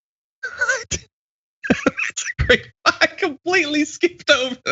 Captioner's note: laugh